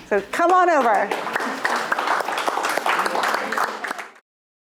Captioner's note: audience applauding